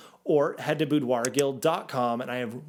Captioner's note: cursor clicks